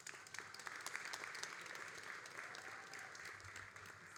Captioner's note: all applauding